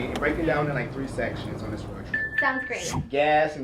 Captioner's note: beeping sound